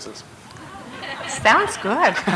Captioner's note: laughter